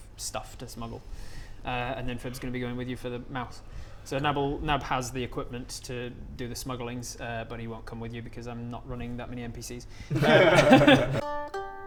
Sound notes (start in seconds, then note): 10.1 disappointed laughter